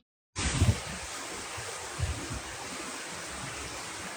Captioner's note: wind rustling